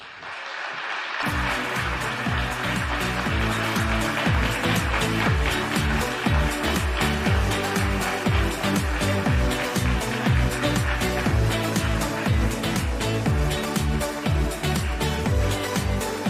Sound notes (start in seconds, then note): 5.0 applause